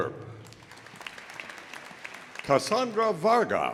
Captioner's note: audience applauding